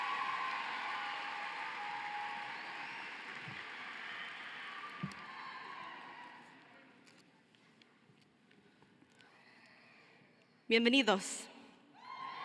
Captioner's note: cheering and applause